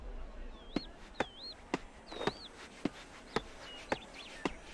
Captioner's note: woodcutting sounds